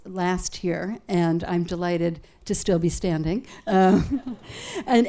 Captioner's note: laughs